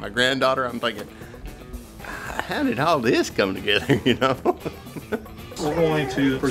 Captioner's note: laughs